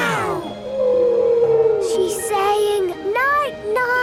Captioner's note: whale calling